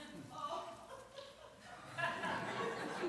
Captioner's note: laughter